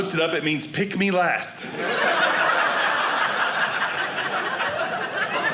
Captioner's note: audience laughing